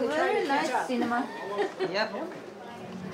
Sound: laughs

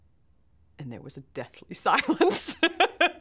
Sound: laughs

